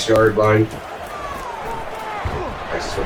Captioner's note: crowd Noises